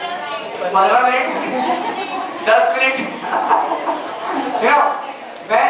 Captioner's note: laughter